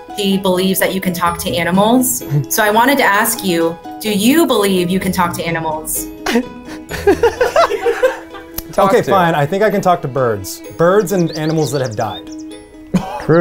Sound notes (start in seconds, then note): 6.1 laughing